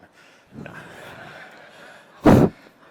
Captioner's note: laughter